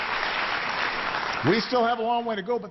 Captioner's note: applause